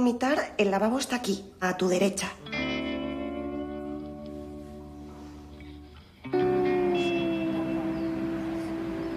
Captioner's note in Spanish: Susurros